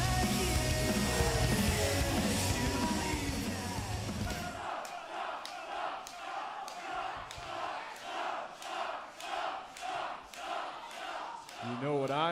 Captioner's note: crowd cheering